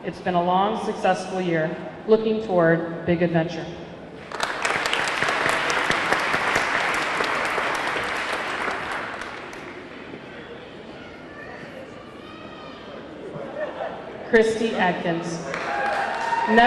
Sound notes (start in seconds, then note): 4.2 audience clapping; 4.2 audience cheering